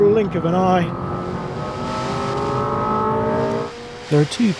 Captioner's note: engine revving